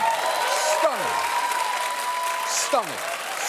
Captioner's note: audience applauding